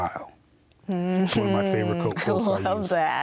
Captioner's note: laughing